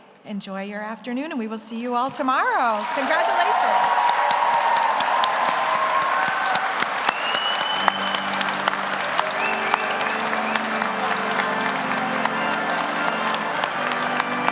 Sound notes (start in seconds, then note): 4.9 audience applauds; 4.9 audience cheers; 9.5 everyone applauding; 9.5 gentle music